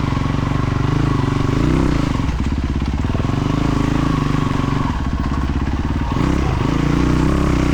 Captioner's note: engine revving